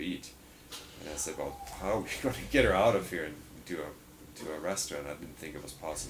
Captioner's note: laughs